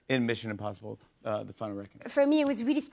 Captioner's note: none